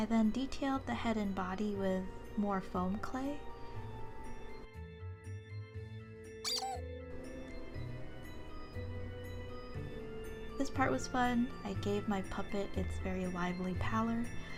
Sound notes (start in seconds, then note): 6.5 squeaking